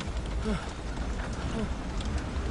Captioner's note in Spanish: Sonido de la camioneta